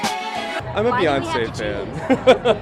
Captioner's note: laughter